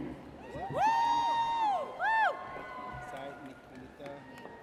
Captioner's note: audience cheers